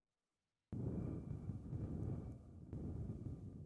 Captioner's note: air humming